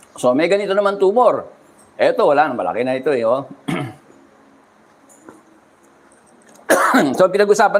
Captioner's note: clears throat